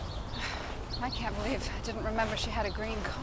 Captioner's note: sighs